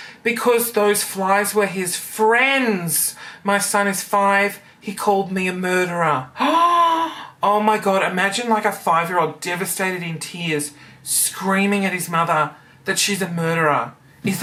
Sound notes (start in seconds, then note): 6.4 gasps